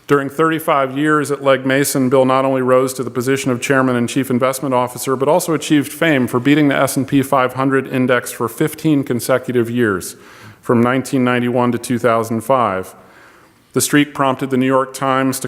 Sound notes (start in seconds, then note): none